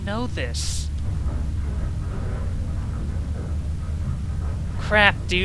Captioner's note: elevator noises